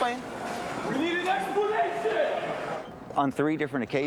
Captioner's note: shouting